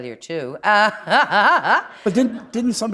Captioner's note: laughter